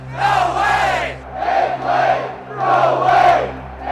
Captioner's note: chanting continues